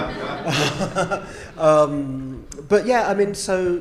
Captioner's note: audience laughing